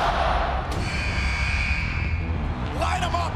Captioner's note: fans chanting; buzzer